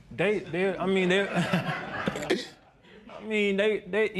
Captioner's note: laughter